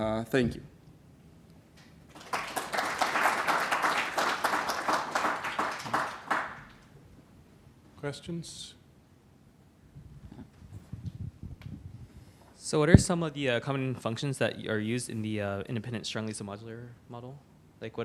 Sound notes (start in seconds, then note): 2.0 applause